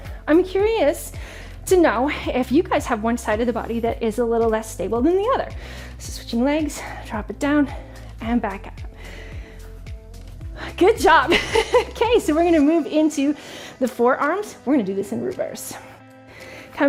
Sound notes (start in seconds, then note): 11.3 laughing